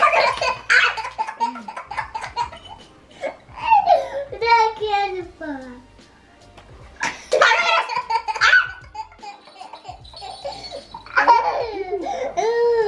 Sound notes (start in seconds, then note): 1.8 shrieks; 2.6 laughs; 8.3 shrieks; 9.4 laughs loudly